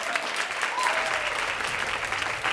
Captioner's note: applause